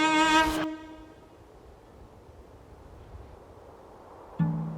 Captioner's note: wind whistling